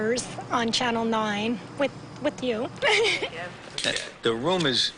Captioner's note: laughing